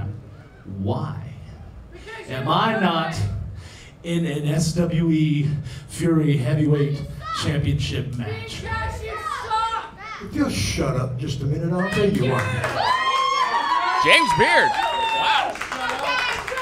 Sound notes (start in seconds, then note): 11.8 crowd cheering